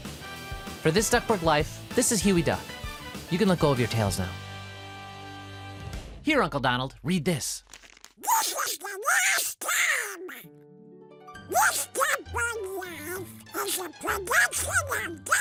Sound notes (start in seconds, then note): 0.0 peppy rock music; 7.6 paper rustling; 9.7 light comedy music